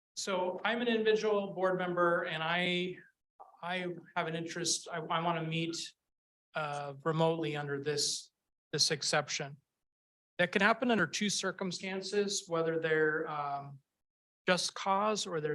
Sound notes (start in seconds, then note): none